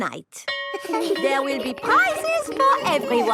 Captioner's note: school bell rings